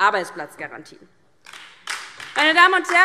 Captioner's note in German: Beifall DIE LINKE